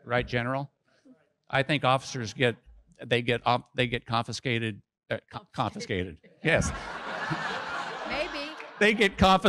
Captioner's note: audience laughs